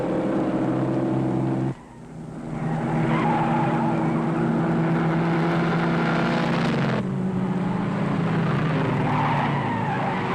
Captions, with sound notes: Gordon leads pack into turn number seven, where Jensen spun out. (tires skidding)